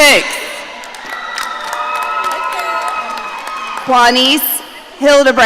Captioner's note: audience cheering